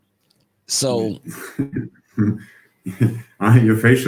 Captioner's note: laughs